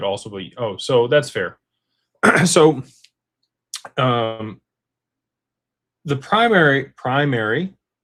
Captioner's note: clears throat